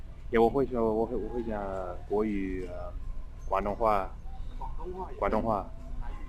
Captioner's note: mandarin